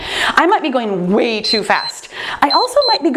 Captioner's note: timer beeps